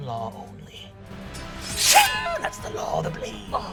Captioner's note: sword zinging